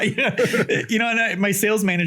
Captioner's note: laughs